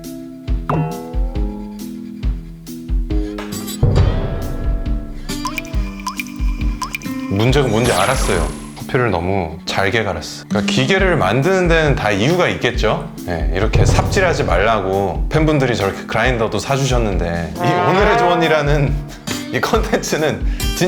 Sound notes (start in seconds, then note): 5.2 drip, drip, drip